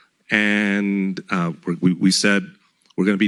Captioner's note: none